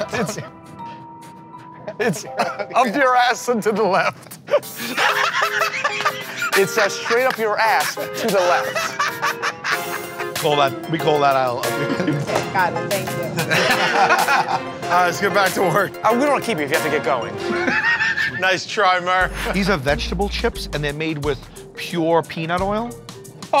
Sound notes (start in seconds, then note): 4.4 laughter; 13.3 laughter; 17.4 laughs